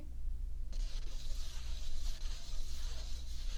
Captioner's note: paper rubbing